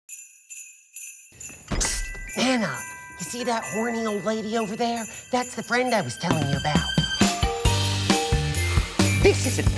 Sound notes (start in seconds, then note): 0.7 jingle bells jingling; 7.5 upbeat music